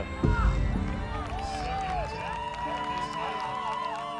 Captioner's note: crowd cheering